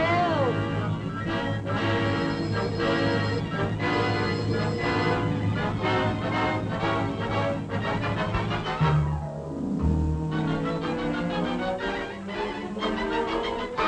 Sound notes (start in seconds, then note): 2.0 loud ringing; 10.6 suspenseful music